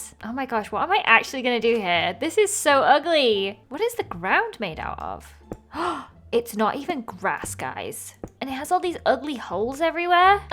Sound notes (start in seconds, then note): 5.7 gasps